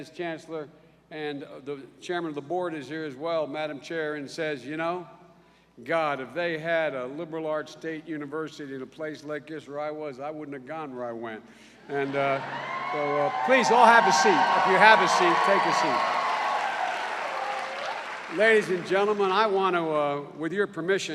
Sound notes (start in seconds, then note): 13.4 cheers and applause